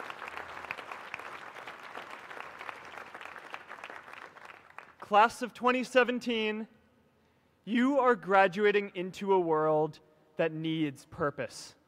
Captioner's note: applause